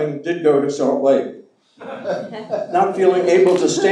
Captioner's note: laughing